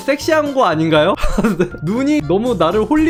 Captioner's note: laughing